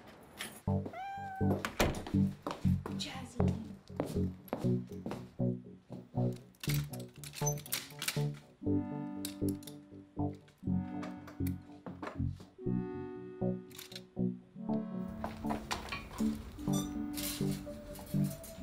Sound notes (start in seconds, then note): 0.8 Jazzy meows; 5.3 soft electronic music; 7.3 rustling; 16.6 coat hanger squeals